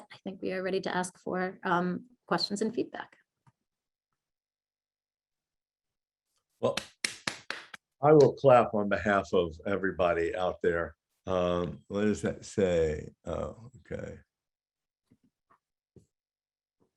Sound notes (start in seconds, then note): 6.6 claps